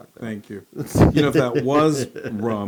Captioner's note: laugh